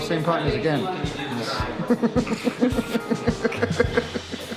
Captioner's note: chuckling